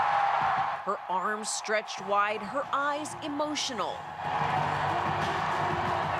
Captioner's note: cheers and applause